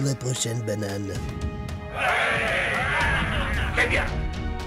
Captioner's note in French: Acclamations